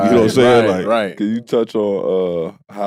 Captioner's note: laughs